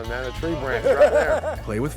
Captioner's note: laughs